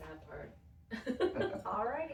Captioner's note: laughing